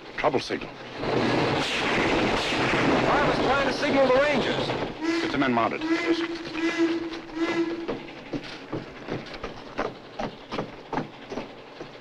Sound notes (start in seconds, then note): 1.0 continuous gunfire; 6.8 train whistle continues blowing